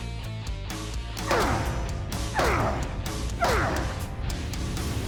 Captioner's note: grunting